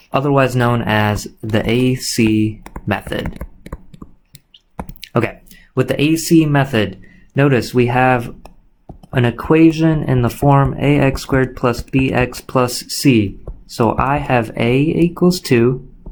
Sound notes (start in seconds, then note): 2.6 computer mouse clicking